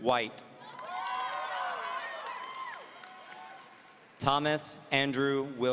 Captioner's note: audience cheering